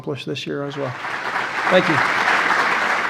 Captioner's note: audience applause